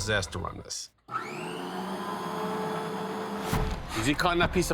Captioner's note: saw whirring